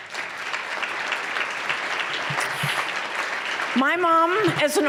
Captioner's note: applause